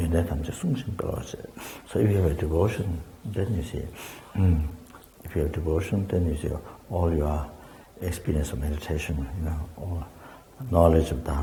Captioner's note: tibetan